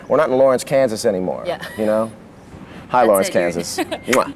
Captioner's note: laughs